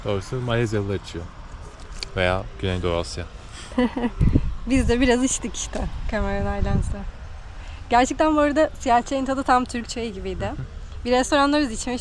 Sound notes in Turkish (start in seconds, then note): 3.6 kahkaha